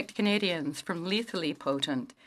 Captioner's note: speaking French